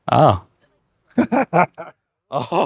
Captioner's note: laughs